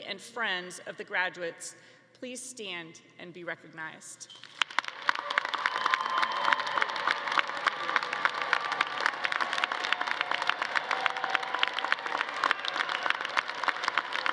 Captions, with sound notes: and friends of the graduates please stand and be recognized. (all clapping) (audience cheering)